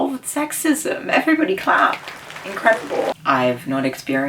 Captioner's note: clapping